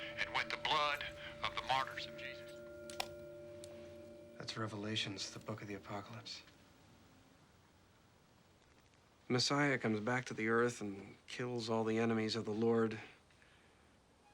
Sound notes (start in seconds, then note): 2.9 click